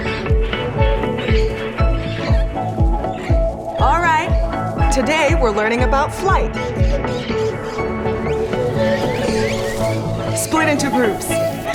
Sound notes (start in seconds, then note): 0.0 loud squawks; 7.3 fluttering; 7.4 chirping